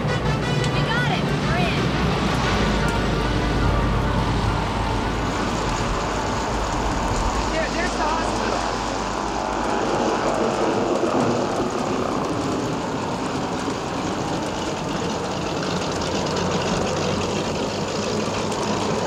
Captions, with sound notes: We got it, we're in! - There, there's the hospital. (wind howling) (engine roaring)